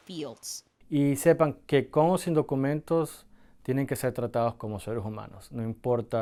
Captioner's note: speaking foreign language